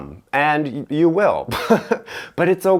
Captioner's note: laughing